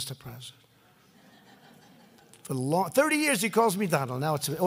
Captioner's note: laughter